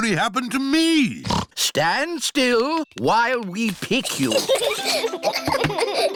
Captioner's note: snorts; children giggle